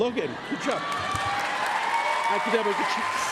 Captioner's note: applause, cheering